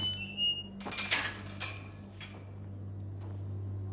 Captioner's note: gate squeaks